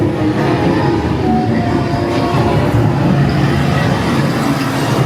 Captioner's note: water roaring